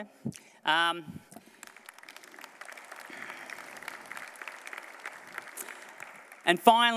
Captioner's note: applause